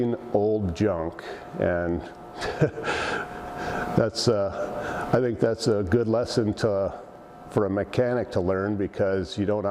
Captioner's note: laughs